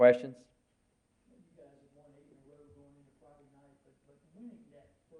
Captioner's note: crowd speaking quietly